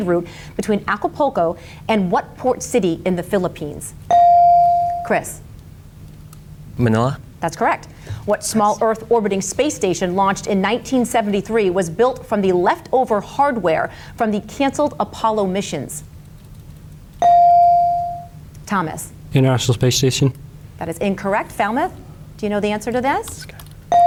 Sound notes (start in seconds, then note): 4.1 bell dings; 17.2 bell dings; 23.9 bell dings